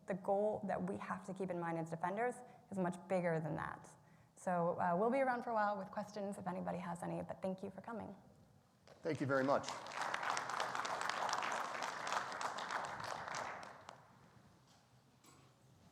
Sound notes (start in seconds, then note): 9.0 audience applauds